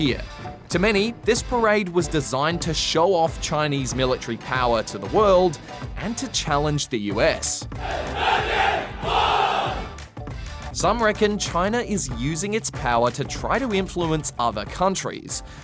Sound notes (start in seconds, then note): 7.9 soldiers chant